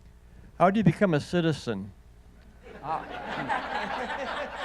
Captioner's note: audience laughing